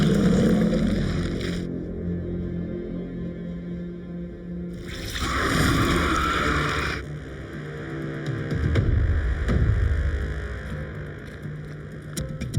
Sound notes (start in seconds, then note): 0.0 teeth crunching; 0.2 ominous music; 4.9 Glenda screaming; 4.9 flesh tearing